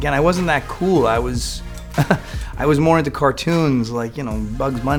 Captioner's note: laughs